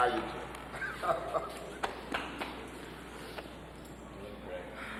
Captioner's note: Charlie chuckling; chuckles; hands tapping